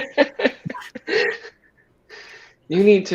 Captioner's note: laughter